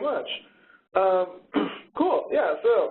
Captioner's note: coughs